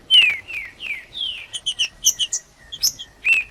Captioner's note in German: trinca ferro cantando